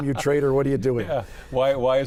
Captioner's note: laughs